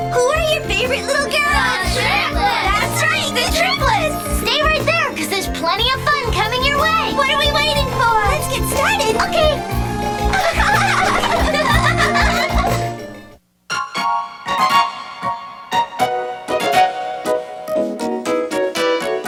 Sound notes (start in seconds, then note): 10.3 laughter; 13.7 cheerful music